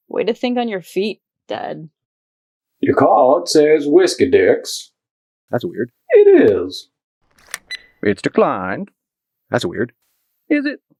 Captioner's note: beep